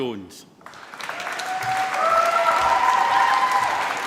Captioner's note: applause